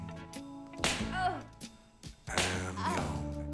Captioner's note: smack